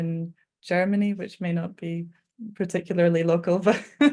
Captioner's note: chuckling